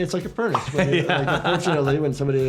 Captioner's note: laughs